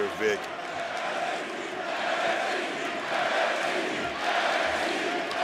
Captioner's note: audience cheering